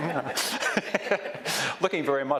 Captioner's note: laughs